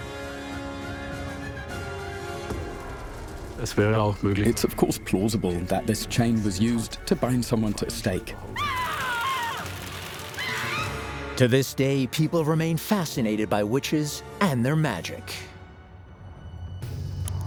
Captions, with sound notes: (dramatic music) It's of course plausible that this chain was used to bind someone to a stake. (screams) To this day, people remain fascinated by witches and their magic.